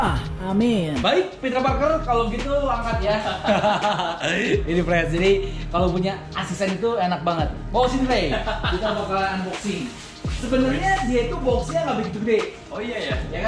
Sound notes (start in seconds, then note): 3.2 laugh